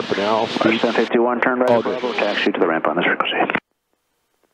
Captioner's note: radio murmuring